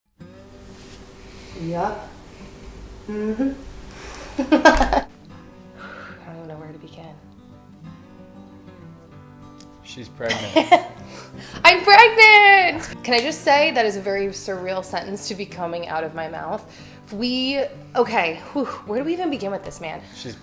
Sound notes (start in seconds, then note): 4.3 laughing